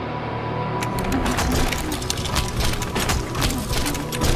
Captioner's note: objects clattering